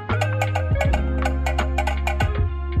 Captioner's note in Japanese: ガタガタ